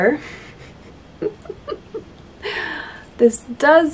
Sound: laughs

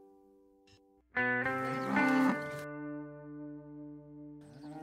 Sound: cow moos

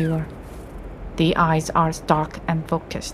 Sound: the sound of soft footsteps again

